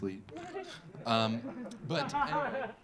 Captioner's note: audience laughing